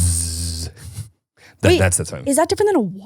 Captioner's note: buzzing